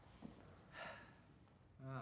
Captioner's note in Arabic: تنهد